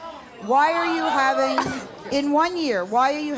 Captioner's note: audience jeering